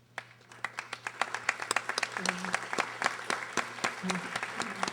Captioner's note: audience applauding